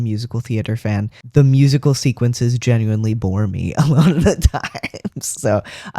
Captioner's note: laugh